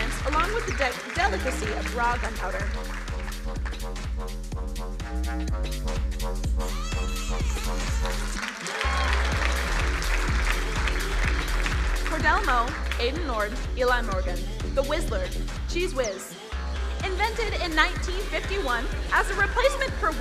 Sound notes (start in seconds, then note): 2.9 upbeat music; 8.9 crowd cheering and applauding